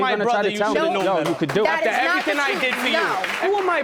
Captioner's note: audience applauds